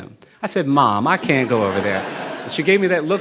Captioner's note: audience laughing